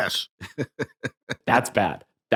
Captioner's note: chuckling